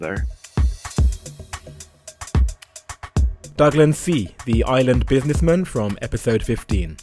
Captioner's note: voiceover